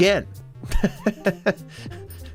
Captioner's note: laughs